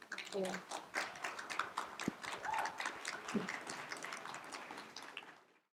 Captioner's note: applause